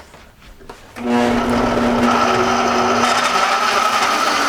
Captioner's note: whirring